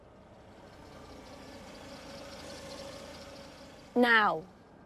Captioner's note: engine whirring